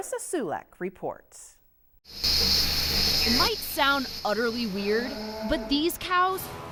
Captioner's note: hissing sound